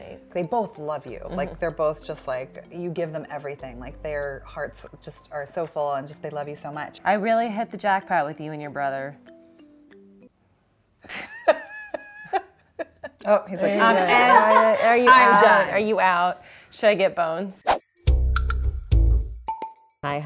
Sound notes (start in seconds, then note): 10.5 laughs; 17.7 upbeat music